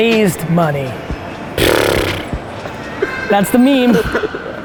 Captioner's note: blows raspberry